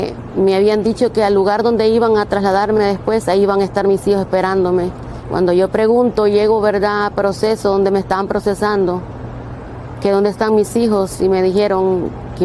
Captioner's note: speaking foreign language